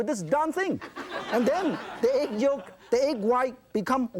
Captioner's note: laughter